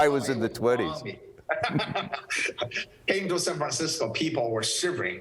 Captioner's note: laughs